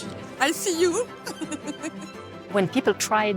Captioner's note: laughing